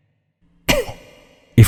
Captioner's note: cough